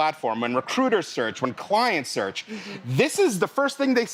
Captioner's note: sigh